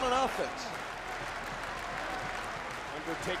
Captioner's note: crowd applauding